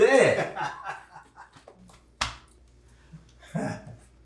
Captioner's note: men laughing